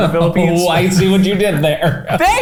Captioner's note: laughing